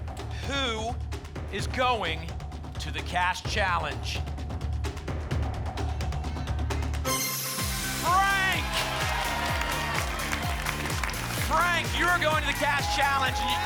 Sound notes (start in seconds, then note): 7.0 ping; 9.1 applause and cheering